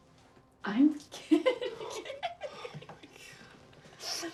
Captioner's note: laughs